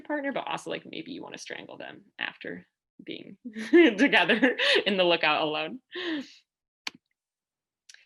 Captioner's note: laughter